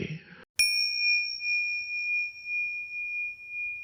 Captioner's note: bell rings